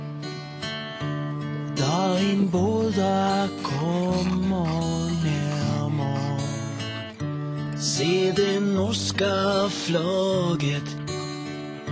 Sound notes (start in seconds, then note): 3.1 pug breathing heavily and snorting